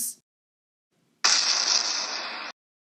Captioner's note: explosion sound